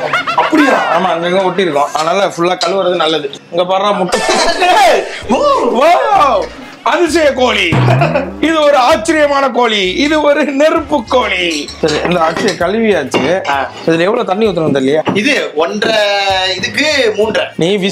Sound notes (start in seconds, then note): 7.9 laughs